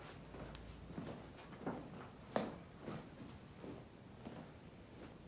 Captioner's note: footsteps tapping